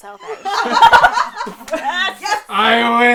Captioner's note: laughter and cheering